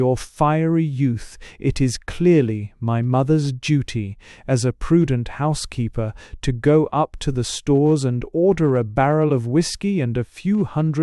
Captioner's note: calmly